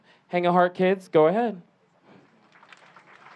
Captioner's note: clapping